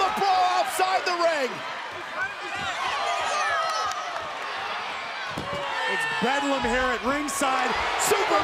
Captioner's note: applause